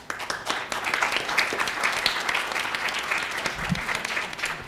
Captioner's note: students clapping